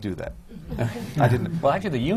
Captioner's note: laughter